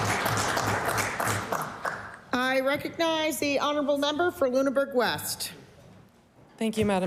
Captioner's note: applause